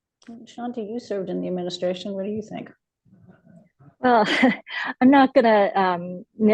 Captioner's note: laughs